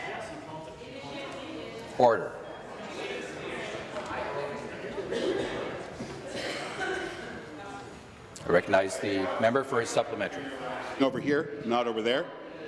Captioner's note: conversation din